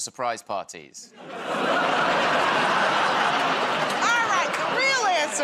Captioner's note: laughter